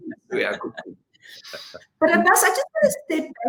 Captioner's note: laughing